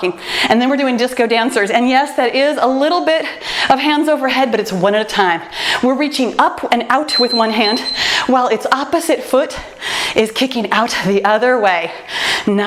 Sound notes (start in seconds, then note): 7.0 timer beeps